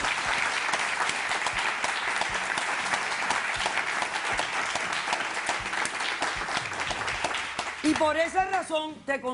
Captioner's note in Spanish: Aplausos